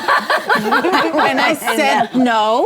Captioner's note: ladies laughing